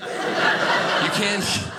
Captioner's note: audience laughing